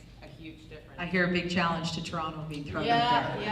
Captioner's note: voiceover